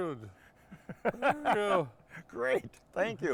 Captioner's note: laughing